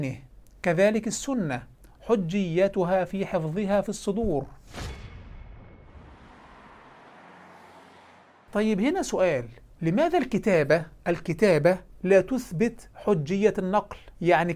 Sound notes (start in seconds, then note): 4.6 sound effects